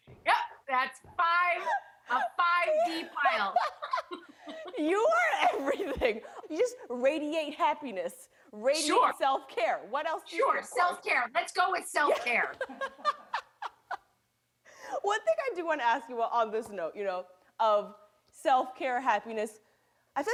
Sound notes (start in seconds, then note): 12.1 laughter